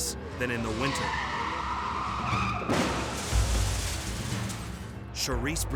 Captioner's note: tires screeching; vehicles thudding